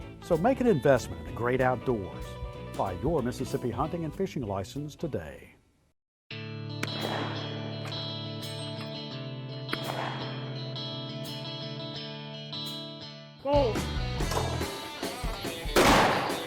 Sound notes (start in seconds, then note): 6.8 guns roaring; 7.1 upbeat music